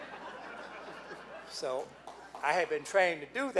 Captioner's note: laughing